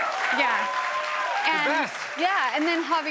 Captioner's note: cheers and applause